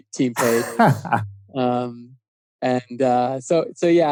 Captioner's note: laughing